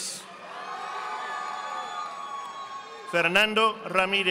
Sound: audience applauding

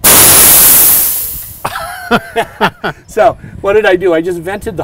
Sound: hissing

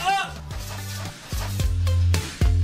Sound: spraying

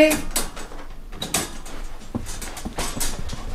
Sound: cage rattles

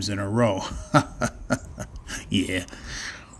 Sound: chuckles

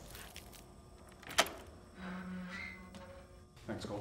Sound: door creaks; door rattles

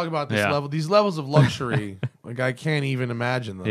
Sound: laughter

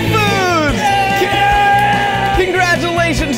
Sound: group cheering

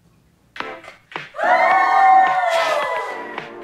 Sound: shouting

